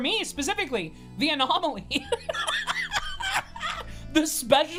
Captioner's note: laughs